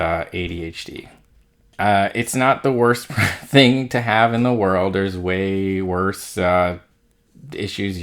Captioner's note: laugh